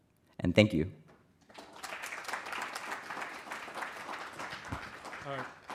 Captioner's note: applause